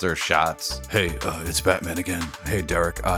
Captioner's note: Deep Batman voice